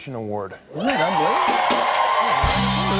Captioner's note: cheers and applause